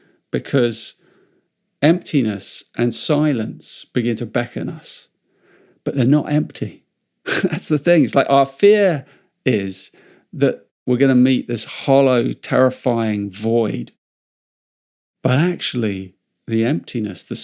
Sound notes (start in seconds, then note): 7.2 chuckles